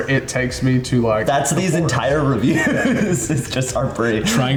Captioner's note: laughs